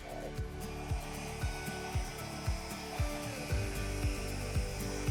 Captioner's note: blower whooshing